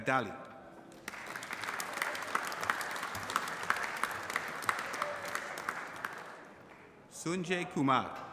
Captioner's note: applause